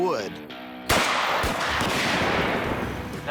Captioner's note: gunshots